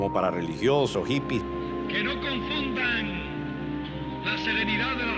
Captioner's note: speaking Spanish